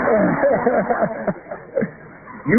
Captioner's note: laughter